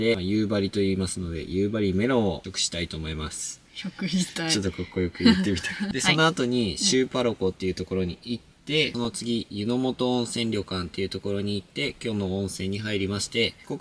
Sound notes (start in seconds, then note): 5.2 laughs